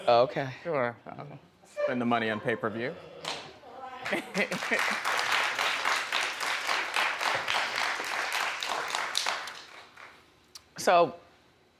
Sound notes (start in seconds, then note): 4.0 audience applause; 4.3 Wendy laughs